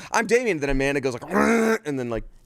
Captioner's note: groans